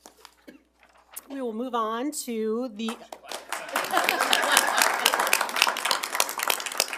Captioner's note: attendees applauding